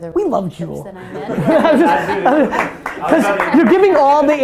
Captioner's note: group laughter